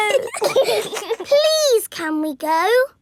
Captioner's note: giggling